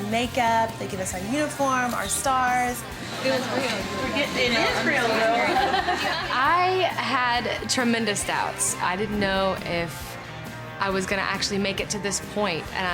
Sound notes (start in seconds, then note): 5.8 laughing